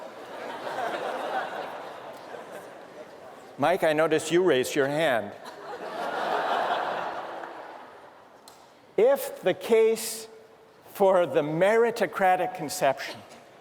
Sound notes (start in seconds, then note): 0.1 laughter; 5.4 laughter